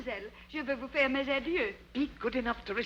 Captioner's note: Becky speaks in foreign language